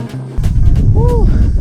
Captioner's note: warning: wind noise